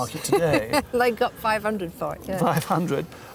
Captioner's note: laughs